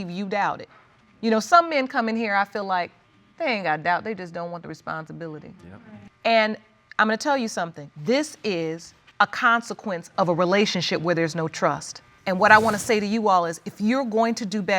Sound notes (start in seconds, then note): none